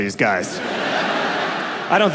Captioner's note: audience laughs